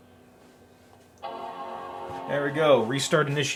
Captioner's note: chiming